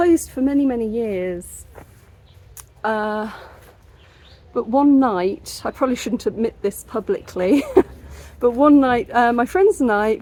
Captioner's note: laughing